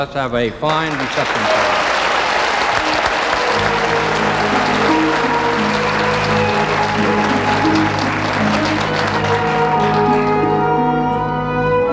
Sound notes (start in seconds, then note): 1.8 audience applauding; 3.2 dramatic classical music